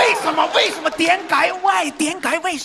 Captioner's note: Cantonese